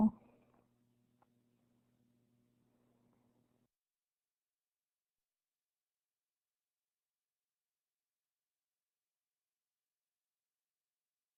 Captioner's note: silence